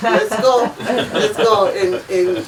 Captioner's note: offscreen laughing